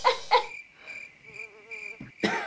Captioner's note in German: Grillenzirpen